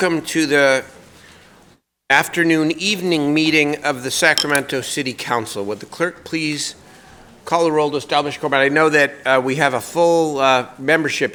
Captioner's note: gavel pounding